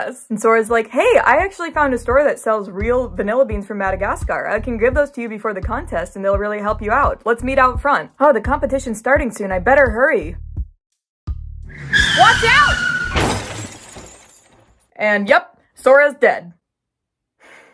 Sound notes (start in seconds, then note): 11.7 tires screeching; 11.8 crash